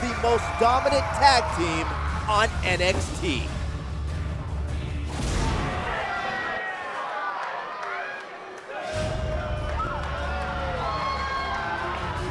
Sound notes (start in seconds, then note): 3.5 crowd cheering